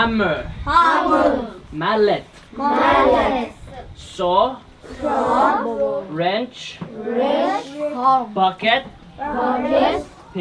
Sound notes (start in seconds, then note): 0.6 kids In Unison; 6.7 kids In Unison